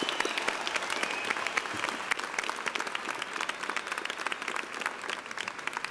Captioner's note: applause